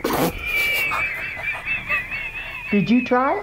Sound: laughs

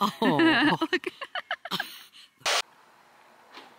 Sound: laughing

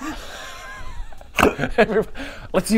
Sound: suppressed laughter

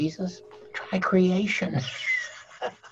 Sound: laughing

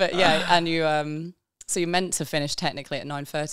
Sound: laughing

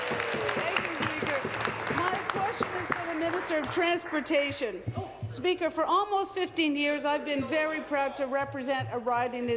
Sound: applause

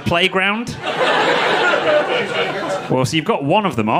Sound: audience laughing

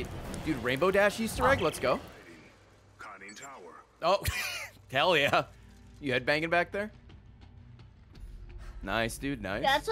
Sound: laughs

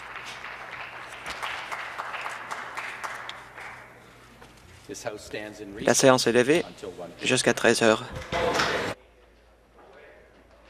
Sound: applause

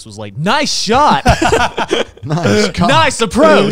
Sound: laughing

